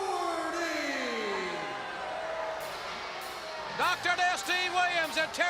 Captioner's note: crowd cheering